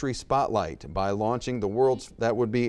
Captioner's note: buzzer beeps